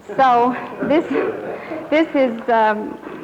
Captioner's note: laughter